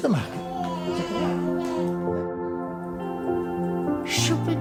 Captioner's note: babies coos; gentle music